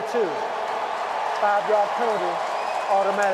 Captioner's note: cheering